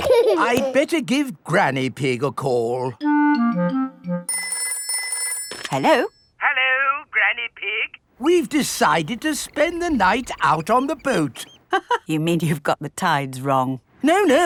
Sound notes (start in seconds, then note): 4.3 telephone ringing; 12.0 laughs